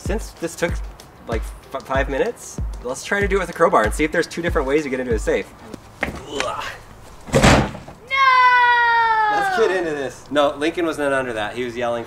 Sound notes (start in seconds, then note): 7.1 metal thudding